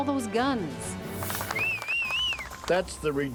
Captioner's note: whistling